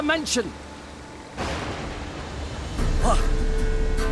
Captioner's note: thunderclap